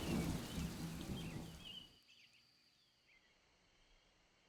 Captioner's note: insects softly chirping